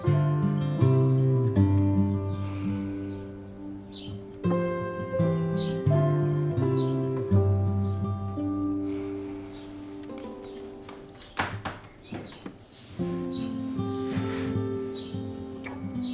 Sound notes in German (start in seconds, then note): 2.3 Seufzen